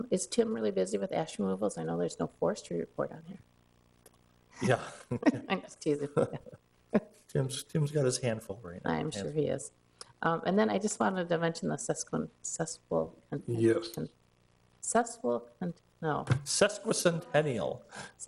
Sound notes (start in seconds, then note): 4.6 chuckles